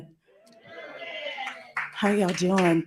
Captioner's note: audience members cheering